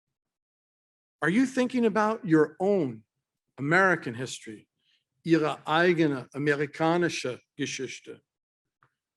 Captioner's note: German Speech